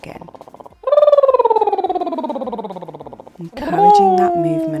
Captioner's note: lips trilling